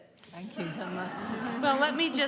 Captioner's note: laughter